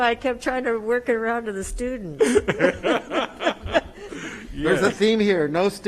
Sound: attendees laugh

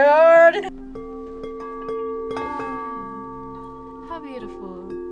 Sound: bowls chiming

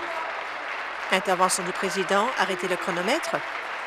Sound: applause

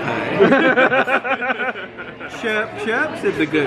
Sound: friends laugh

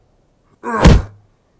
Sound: punch

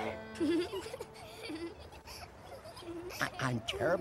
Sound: giggling

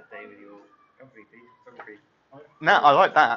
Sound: chattering

